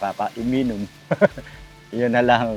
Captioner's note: laughs